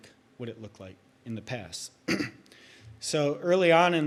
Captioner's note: clears throat